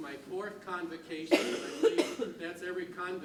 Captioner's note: coughs and clouds speech